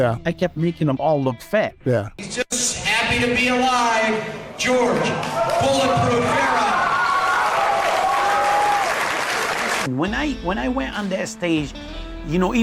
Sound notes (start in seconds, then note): 7.2 audience cheering